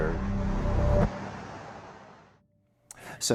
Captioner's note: ominous sound